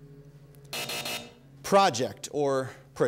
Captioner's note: buzzer